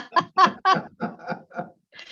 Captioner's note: chuckles